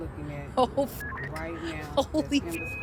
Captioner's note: beep